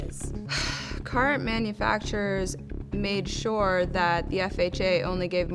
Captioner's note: sighs